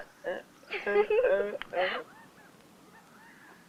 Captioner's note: giggling